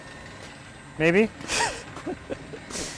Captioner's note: laughs